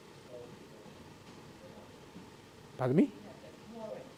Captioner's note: people speaking in background